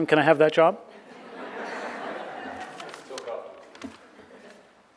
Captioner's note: audience laughing